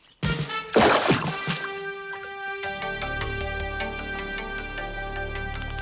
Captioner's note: water splashing; upbeat music